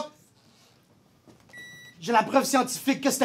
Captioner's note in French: Bip